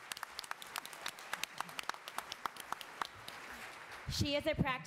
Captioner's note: attendees applauding